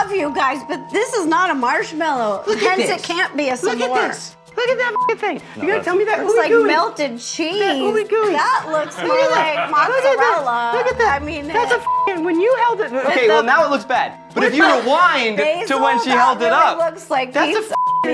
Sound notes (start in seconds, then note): 5.1 beeps; 10.9 beeps; 17.6 beeps